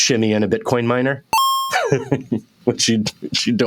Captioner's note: digital cling